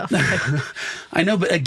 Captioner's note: laughs